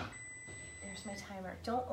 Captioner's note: timer beeping